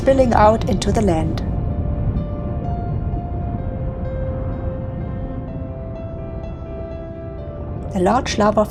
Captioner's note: sound of lava flowing